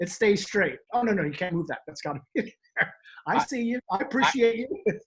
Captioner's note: laughs